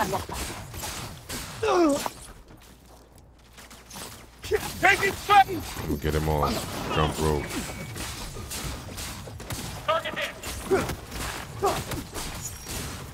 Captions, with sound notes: (footsteps) Oh, Jesus fuck! Floor is clear! I killed him! I killed him all!